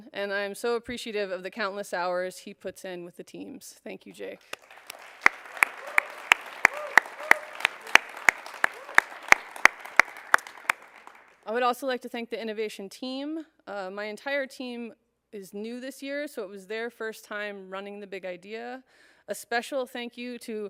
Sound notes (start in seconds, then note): 4.5 cheers and applause